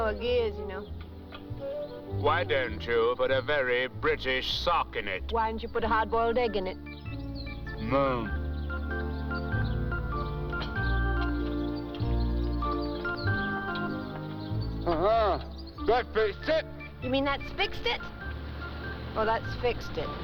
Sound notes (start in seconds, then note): 14.9 grunts